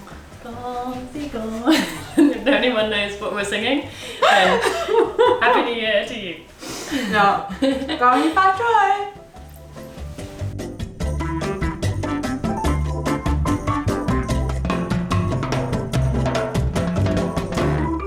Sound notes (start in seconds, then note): 1.6 chuckles; 9.0 happy music